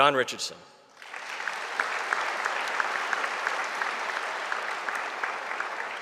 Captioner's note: audience applauding